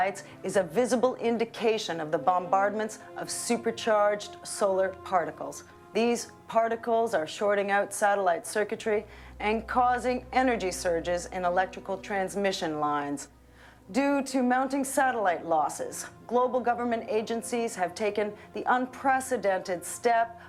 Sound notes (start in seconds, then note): none